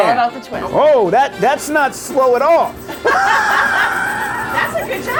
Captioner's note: laughing